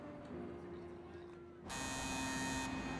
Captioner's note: buzzer ringing